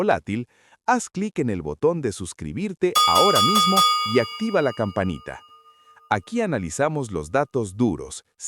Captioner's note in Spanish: campana